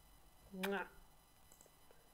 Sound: kiss

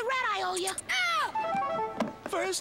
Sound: screaming

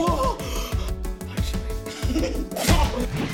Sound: whispers

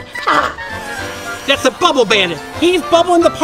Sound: fan engine humming

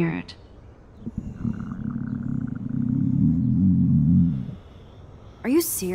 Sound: Max's stomach growling

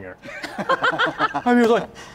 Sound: laughs

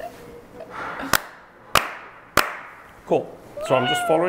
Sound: claps

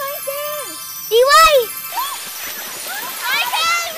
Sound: kids cheering

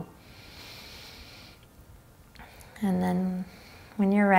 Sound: inhaling deeply

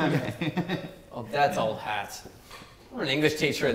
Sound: chortles

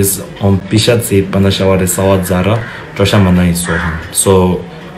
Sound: speaks in foreign language

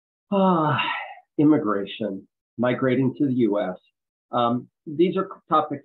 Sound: sigh

